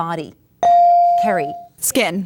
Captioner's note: ding